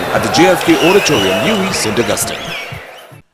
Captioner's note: wild applause and cheering for 22 seconds